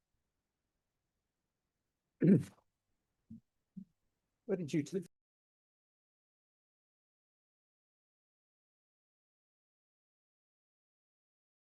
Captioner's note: pause